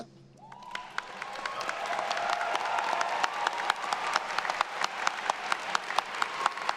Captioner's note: attendees cheering; everyone applauding